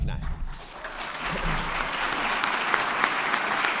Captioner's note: all clapping